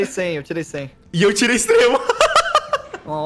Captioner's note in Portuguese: Risos